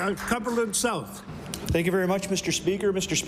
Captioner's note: applause